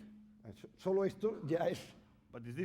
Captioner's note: speaking spanish